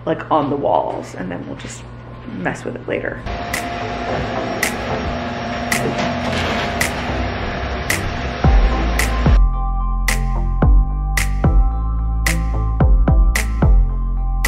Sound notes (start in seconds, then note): 3.3 vacuum; 8.5 soft music